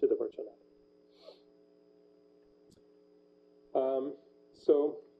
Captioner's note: pause